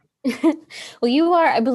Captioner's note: chuckles